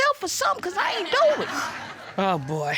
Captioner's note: scoffs